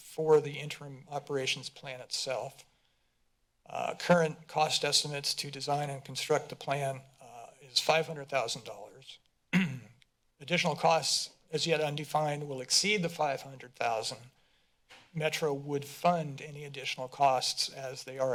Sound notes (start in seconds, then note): 9.5 clears throat